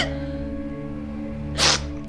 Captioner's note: sobbing